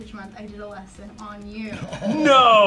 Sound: chuckles

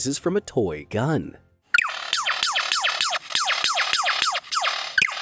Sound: bird mimics gun firing

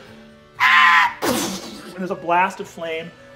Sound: screeching

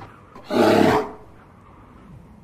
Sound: growls

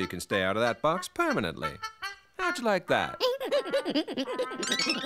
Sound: laughing

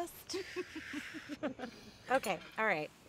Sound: chuckles

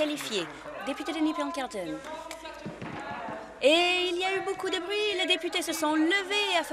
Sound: applause

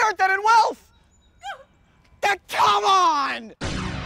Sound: woman cries; dramatic chord

